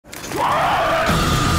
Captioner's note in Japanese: 叫び声